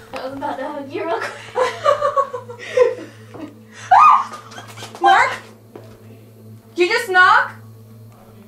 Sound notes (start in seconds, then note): 1.1 nervous laughing; 3.8 squealing